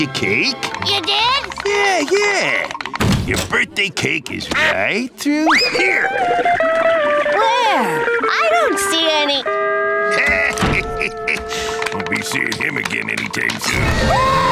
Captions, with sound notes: -I got your cake. -You did? Yeah, yeah. Your birthday cake is right through here. Where? I don't see any... [chuckling] Won't be seeing him again any time soon.